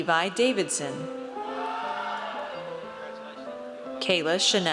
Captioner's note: audience cheers